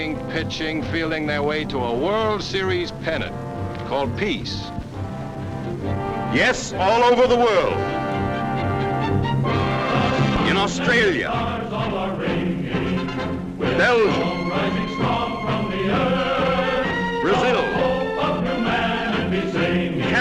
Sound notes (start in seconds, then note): 6.6 voiceover